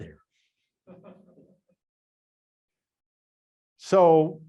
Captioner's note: student laughs faintly